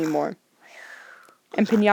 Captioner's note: snores